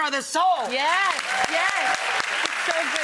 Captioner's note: audience applauds